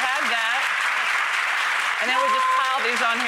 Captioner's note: audience applauds